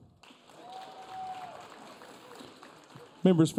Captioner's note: audience cheering